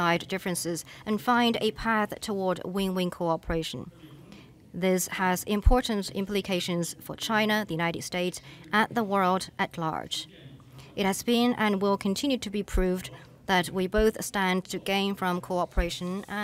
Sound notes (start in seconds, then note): none